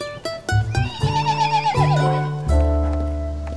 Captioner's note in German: Wiehern